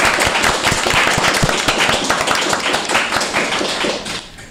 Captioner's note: applause